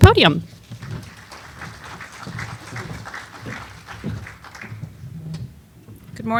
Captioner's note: applause